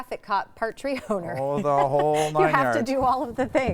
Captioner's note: laughing